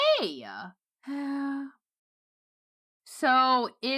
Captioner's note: sighs